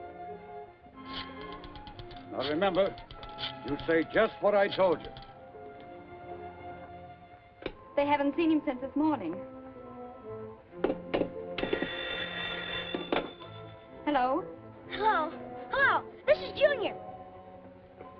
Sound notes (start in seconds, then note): 11.6 phone rings